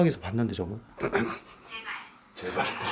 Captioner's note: clear his throat